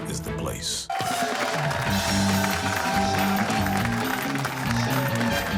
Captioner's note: cheers and applause